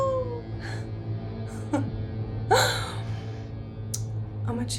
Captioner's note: Angela chuckles